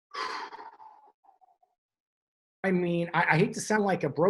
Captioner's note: exhales